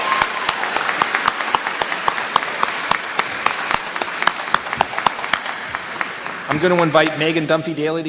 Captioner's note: applause